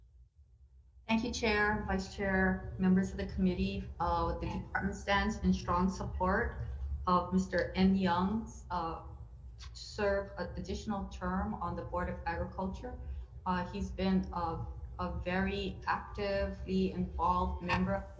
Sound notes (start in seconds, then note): none